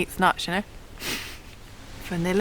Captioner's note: more sniggering